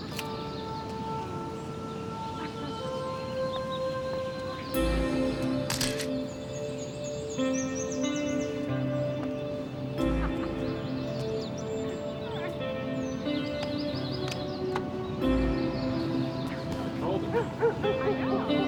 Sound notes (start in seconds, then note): 4.0 camera shutter clicks; 10.0 laughing